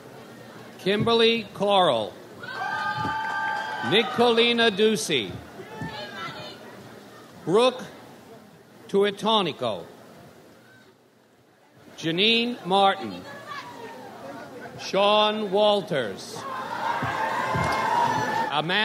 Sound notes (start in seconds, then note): 2.4 audience cheers; 16.4 audience cheers